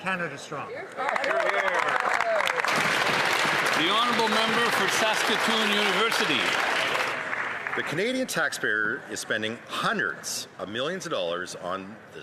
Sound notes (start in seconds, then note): 3.7 some Applause